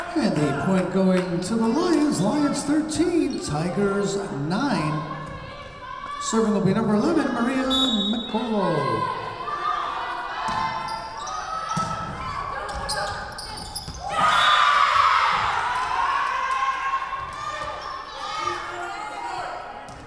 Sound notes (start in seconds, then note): 7.7 whistle blowing; 14.0 Lions cheering; 14.2 whistle blowing